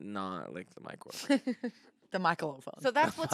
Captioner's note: laughs